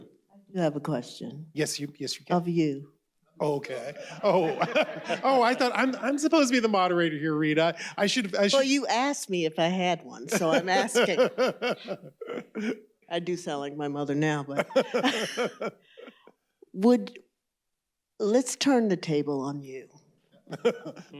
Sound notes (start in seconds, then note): 11.2 laughter